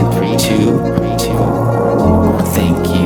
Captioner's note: imitation Of Door Creeking open